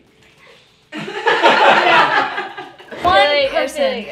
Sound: all laughing

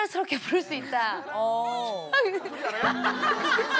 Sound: laughing

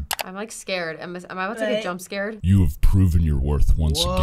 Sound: voice-over

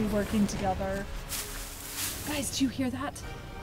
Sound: grass rustling

